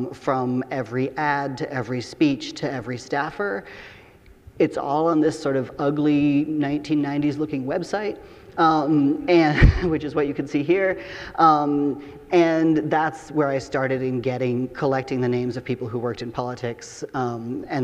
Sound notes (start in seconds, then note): 8.2 audience laughing; 9.5 chuckles